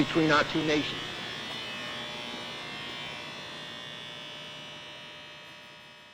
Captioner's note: his voice fades, along with the raspy hum of machine sounds